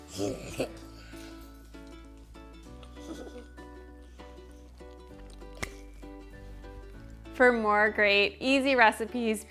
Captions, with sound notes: (chuckling) (slapping) For more great, easy recipes,